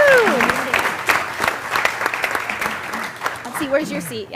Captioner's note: applause